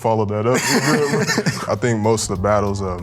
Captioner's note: contestants laughing